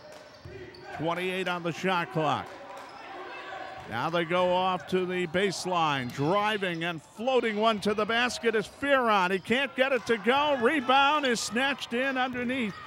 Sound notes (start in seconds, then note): 1.9 clapping; 2.4 yelling